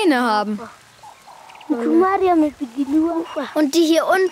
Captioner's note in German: Sie sprechen in ihrer Sprache